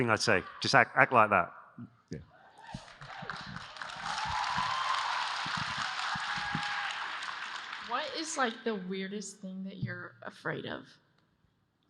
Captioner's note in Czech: Potlesk